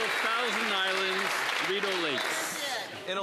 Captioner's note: some Applause